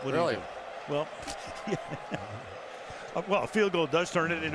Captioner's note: chuckles